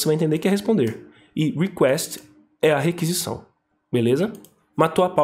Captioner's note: explaining on Portuguese; still explaining in Portuguese